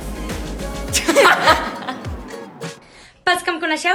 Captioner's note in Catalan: Paula i Lisa riuen